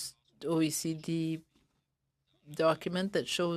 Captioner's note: speaking French